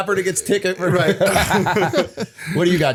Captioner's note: laughter